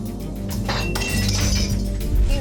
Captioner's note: glass breaking